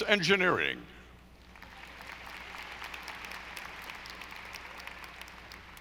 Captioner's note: audience applauding